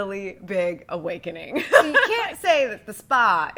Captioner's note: laughs